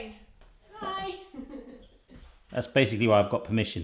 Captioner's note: laughing